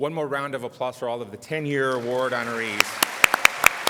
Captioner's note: applause